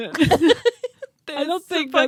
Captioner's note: laughing